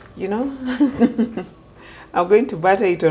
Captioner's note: laughs